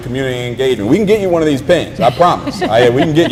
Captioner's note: laugh